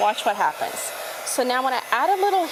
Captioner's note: heat gun whirs